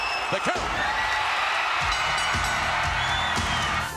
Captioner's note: applause